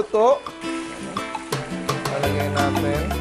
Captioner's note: sizzle